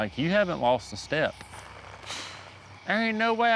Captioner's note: sighs